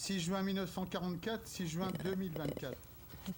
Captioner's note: speaking French